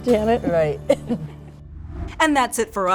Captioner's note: laughing